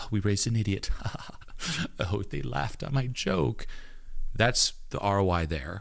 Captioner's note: laughs